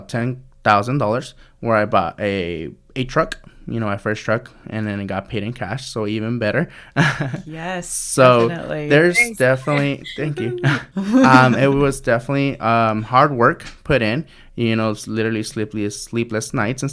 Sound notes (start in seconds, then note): 7.2 laughs